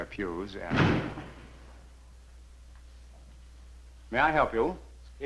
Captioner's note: door slamming